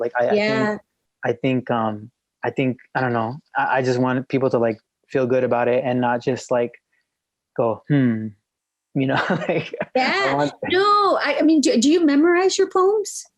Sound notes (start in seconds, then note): 9.0 laughs